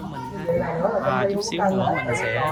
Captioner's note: people gossiping